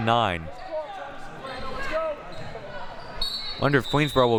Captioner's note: audience chattering and yelling